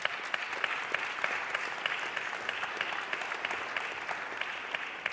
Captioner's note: audience applauding